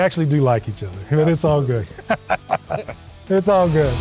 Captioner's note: laughs